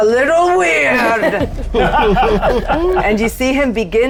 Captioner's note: everyone laughing